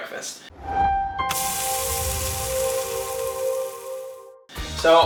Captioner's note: sizzling skillet